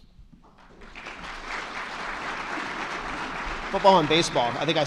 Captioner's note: attendees clapping